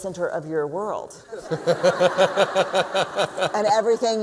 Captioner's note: laughter